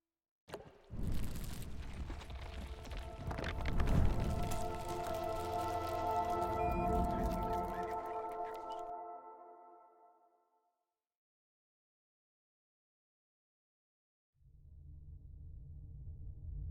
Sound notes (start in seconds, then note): 0.4 water drop; 1.2 crackle; 3.5 rockslide; 5.0 musical tone